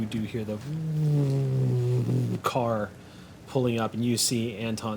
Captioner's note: electrical whirring